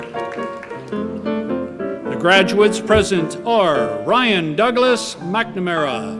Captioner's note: applause